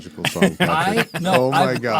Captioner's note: laughing